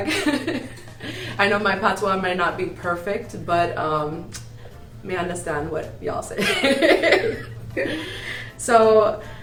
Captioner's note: chuckles; chuckles